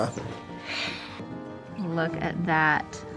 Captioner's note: giggles; gentle music